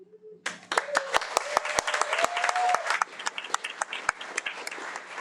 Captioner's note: audience applauding